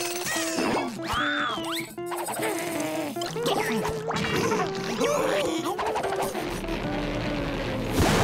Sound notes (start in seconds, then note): 4.6 sneezing